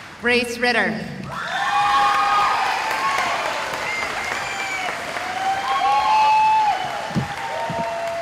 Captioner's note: cheering